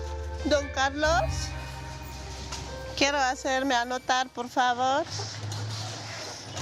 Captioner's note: speaking in foreign language